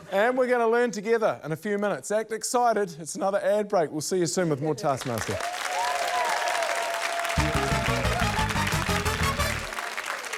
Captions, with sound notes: and we're gonna learn together, in a few minutes. Act excited ― it's another ad break. We'll see you soon with more Taskmaster. (CHEERING, APPLAUSE) (UPBEAT FANFARE)